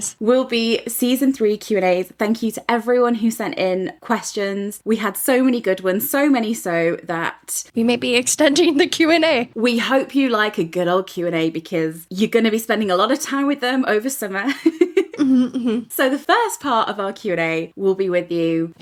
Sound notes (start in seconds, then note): 14.3 laughs